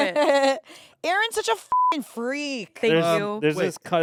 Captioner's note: beep